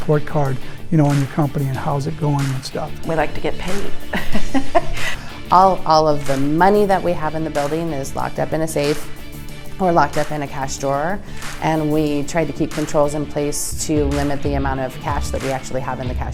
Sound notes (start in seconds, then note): 3.2 laughs